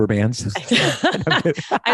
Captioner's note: laughs